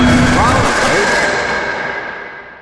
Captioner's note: screams into a fit of rampage